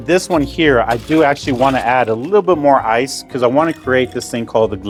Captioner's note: ice clinks